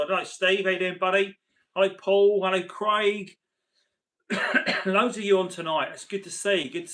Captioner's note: coughs